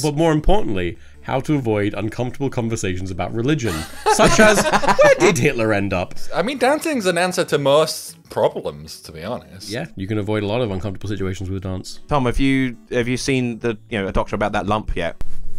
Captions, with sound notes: But more importantly how to avoid uncomfortable conversations about religion, (all laughs) such as where did Hitler end up? - I mean dancing's an answer to most problems to be honest. - Yeah, you can avoid a lot of uncomfortable situations with dance. - Tell me have you seen the doctor about that lump yet?